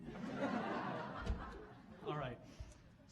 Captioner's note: audience laughing